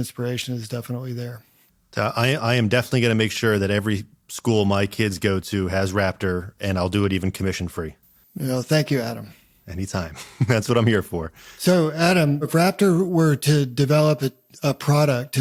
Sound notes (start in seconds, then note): 10.0 laughs